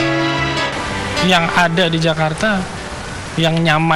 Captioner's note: non-english speech